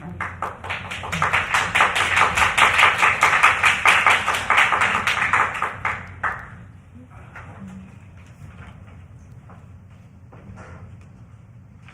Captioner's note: applause